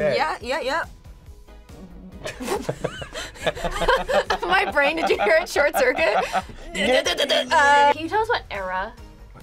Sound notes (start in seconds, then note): 2.2 both chuckling; 5.8 both grunting